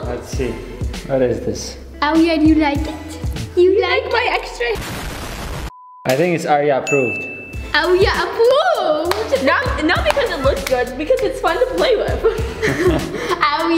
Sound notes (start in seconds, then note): 4.7 explosion; 12.2 both laughing